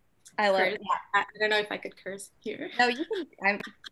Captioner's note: chuckles